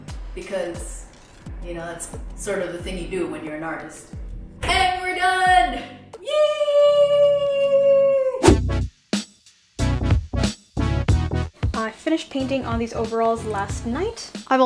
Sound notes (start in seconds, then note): 8.4 frame whooshing; 8.4 upbeat music